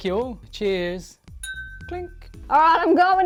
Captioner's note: clinking sound